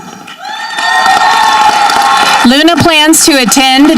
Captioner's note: audience cheering